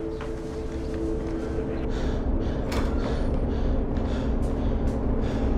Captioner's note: panting